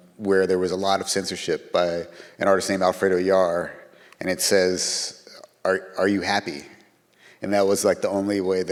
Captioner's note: none